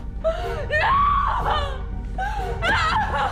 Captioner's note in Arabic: يبكي